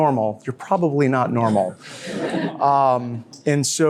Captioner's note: others laugh